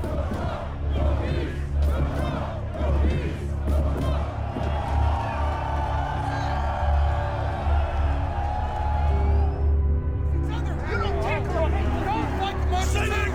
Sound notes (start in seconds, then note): 0.0 crowd chanting; 6.7 crowd cheering; 10.3 men arguing